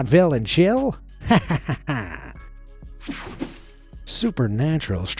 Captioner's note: person laughing